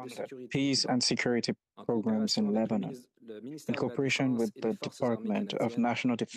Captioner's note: speaking French